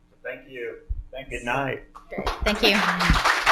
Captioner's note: applause